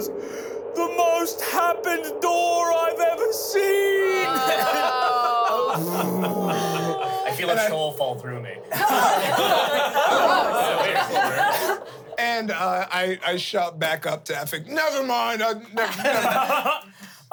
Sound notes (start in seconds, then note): 4.2 laughs; 8.7 everyone laughs